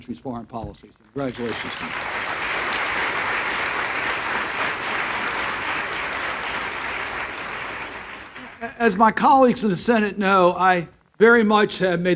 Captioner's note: applause